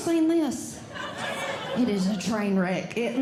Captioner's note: audience Laughing